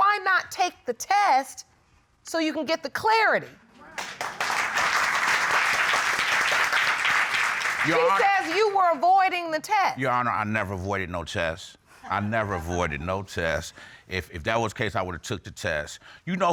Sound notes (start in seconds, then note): 4.0 audience applauding